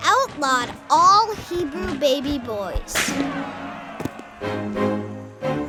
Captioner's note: whip cracks